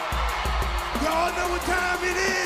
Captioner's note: crowd cheering